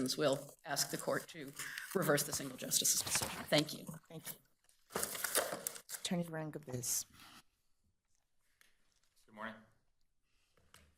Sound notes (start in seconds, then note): 4.8 paper rustling